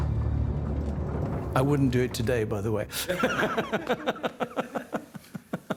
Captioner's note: laughs